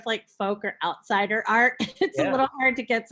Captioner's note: chuckles